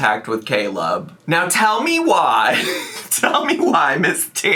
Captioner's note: laughs